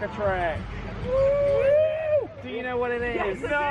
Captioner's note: family shouts